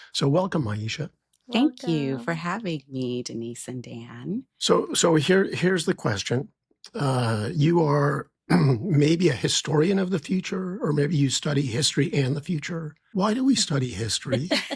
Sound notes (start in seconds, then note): 8.4 clears throat; 13.3 laughs